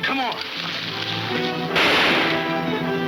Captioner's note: gunshot banging